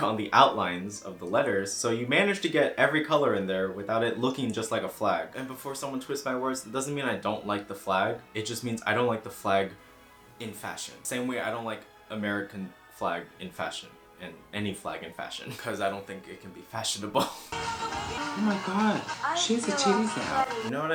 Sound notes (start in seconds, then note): 17.1 chuckles